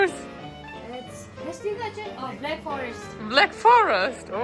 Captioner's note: speaking in foreign language